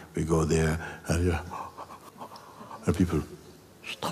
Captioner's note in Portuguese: bocejo